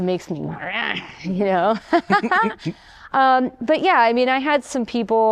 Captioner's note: laughter